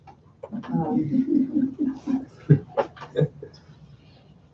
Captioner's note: laughing